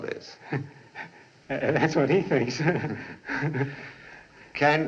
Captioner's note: chuckling